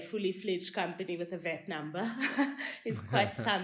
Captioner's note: laugh